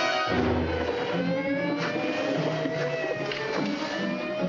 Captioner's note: siren blaring